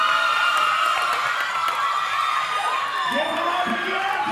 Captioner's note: audience cheering